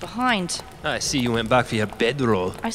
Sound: mocking

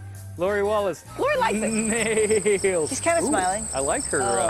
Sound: laughter

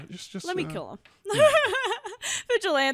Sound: laughs

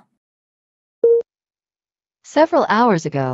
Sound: beep

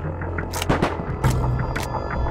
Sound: gunshot

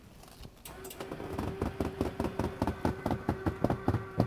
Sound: whirring

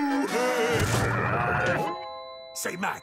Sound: laughing; growling

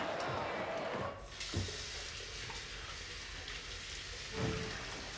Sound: water running; door opening

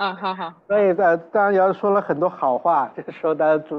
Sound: Mandarin

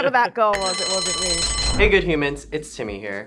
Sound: bell Rings

